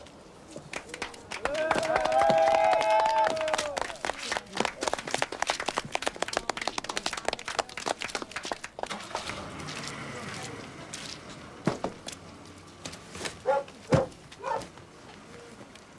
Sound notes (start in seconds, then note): 0.6 applause; 5.0 cheering